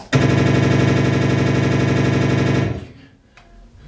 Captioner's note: machine gun fire